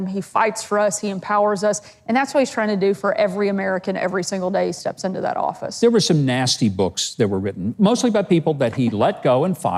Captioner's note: none